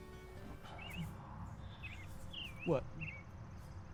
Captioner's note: birds chirping